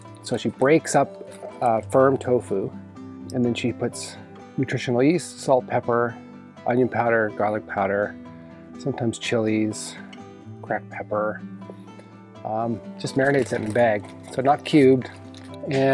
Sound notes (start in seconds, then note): 13.0 paper rustles